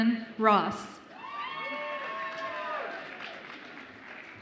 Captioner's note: audience applauds and cheers